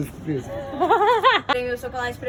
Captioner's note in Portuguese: amigos falando ao fundo; risos